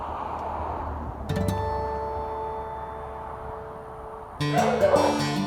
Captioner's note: highway traffic; dogs barking underneath music